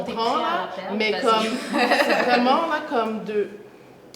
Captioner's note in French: rires